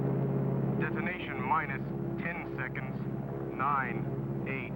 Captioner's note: man On Radio